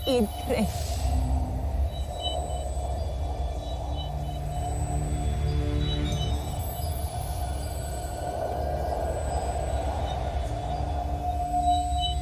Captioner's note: ethereal whoosh, celestial chimes